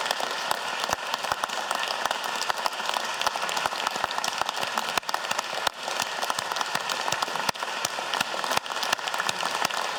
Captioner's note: applause